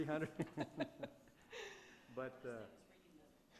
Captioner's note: laughing